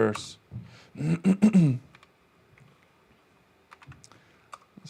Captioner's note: clears throat